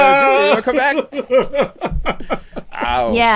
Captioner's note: laughter